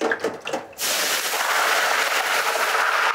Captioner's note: loud sizzling